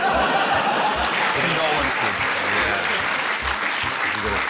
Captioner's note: laughter; applause